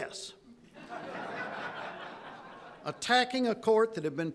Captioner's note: audience laughing